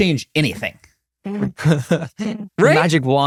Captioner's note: laughs